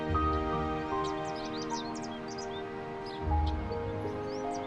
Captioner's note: birds chirping